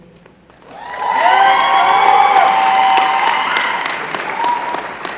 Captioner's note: applause